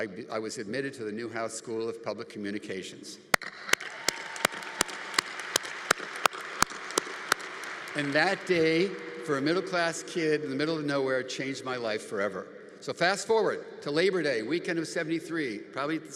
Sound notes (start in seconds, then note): 3.3 congregation applauding